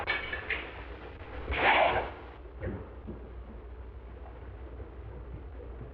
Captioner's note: gunfire blasting